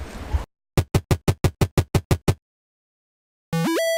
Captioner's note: gaming noises